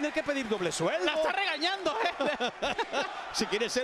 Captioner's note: laugh